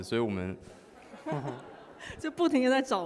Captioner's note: audience laughs